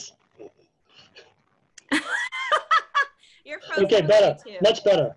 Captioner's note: laughs